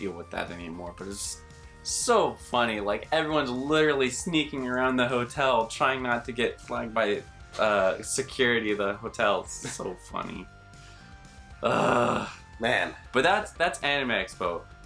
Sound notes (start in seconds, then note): 11.6 groan